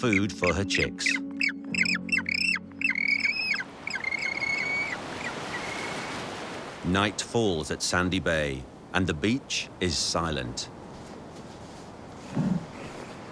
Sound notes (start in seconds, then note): 0.0 penguin chicks chirping